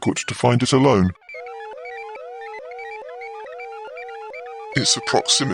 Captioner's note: alarm sounds